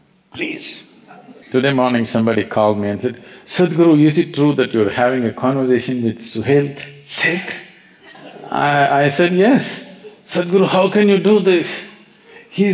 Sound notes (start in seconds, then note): 8.0 few Laughs